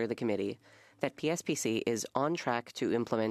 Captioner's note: speaking French